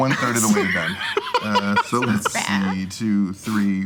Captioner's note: laughing